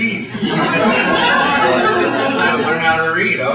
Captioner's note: laughter